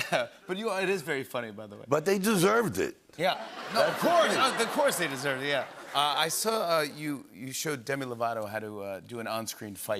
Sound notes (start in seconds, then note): 3.4 laughter